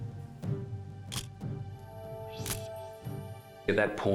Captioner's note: camera shutter click